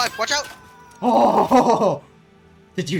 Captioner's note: super relieved sigh